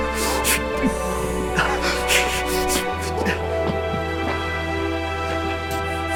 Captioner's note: john breathing heavily